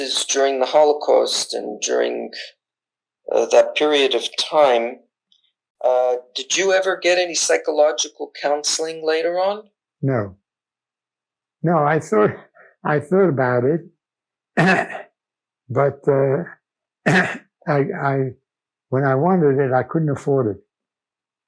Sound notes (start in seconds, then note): 14.6 clears throat; 17.0 clears throat